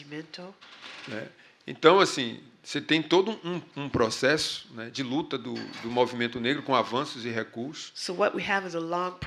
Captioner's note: speaking portuguese